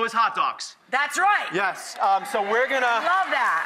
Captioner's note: audience cheers